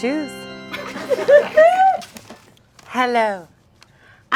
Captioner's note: audience laughing